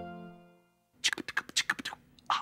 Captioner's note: clicking and popping; whispers